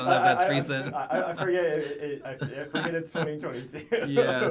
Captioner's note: laughs